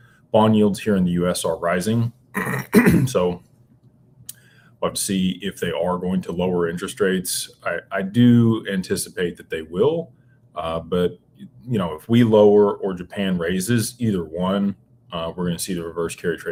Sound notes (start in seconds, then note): 2.3 clears throat